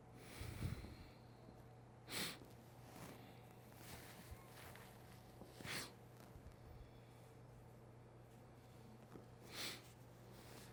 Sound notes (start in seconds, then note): 2.0 sniffling